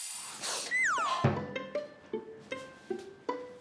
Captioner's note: crying?